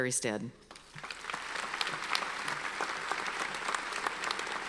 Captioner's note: audience applauds